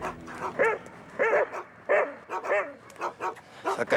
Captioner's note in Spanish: ladridos